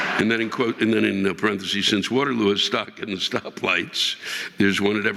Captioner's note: audience laughing